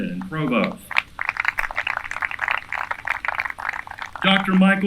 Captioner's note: applause